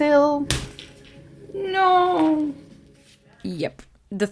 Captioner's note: sound of thread breaking